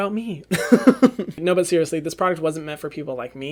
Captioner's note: laughs